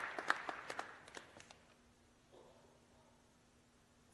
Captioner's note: applause